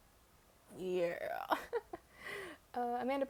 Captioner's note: laughs